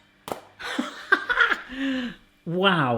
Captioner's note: laughs